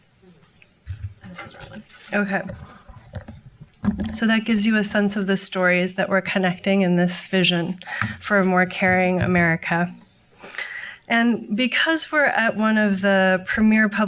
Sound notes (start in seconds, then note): none